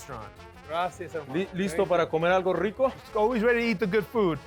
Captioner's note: speaking Spanish